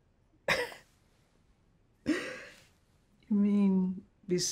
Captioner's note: chuckles